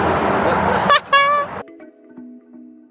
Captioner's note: lady laughing